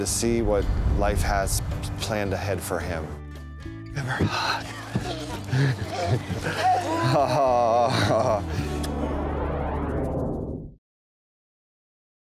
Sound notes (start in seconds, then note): 4.0 panting and laughter; 8.8 kisses